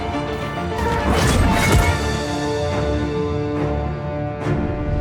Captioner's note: weapon slicing